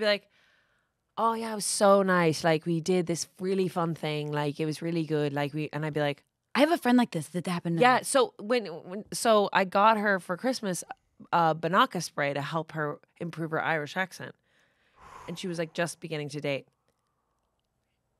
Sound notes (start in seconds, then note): none